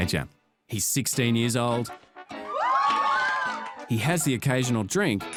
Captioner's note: cheering